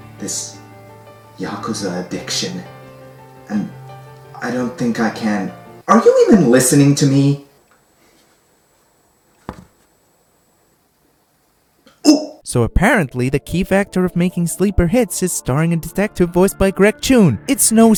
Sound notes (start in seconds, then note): 12.0 excited gasp